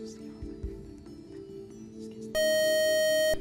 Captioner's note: buzzer